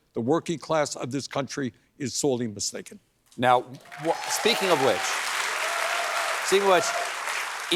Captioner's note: cheers and applause